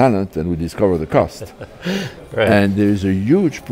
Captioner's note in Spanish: risas